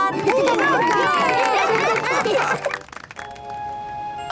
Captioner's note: cheering, applause